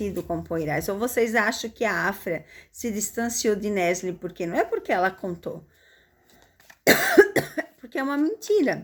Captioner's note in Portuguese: tosse